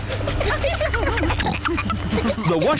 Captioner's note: rumbling; giggling